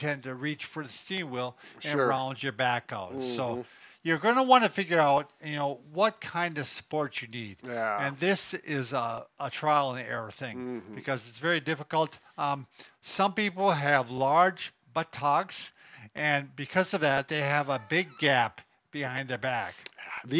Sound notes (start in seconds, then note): 3.1 hums agreeably; 10.5 hums agreeably; 17.6 laughs